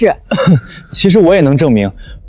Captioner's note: cough cough